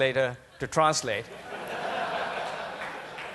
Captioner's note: laughter